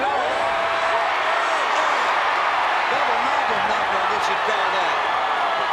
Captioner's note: applause